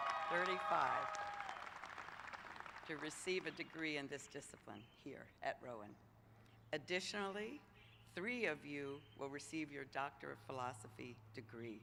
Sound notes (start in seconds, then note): 5.3 applause